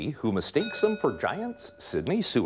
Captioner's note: bell rings